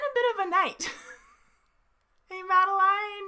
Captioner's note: laughs